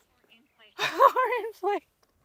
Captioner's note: laughs